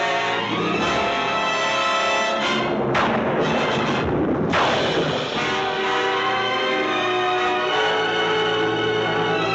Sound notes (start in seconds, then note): 2.8 thunder crashing; 3.5 suspenseful music continues